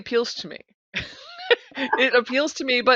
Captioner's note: laughing